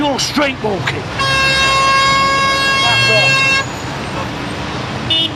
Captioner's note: horn Honking